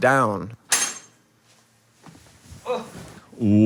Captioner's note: ball clattering; metal knocking; exhales